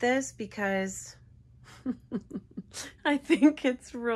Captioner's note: laughs